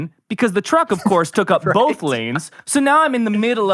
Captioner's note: laughs